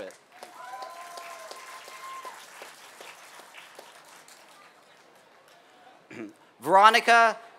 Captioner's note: applause